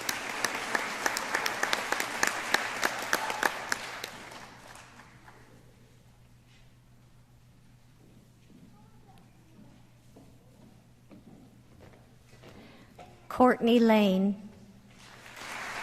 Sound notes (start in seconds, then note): 3.6 applause